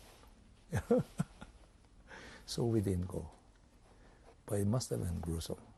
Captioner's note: laughs